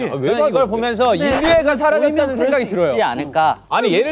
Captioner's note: decibels rising with differing opinions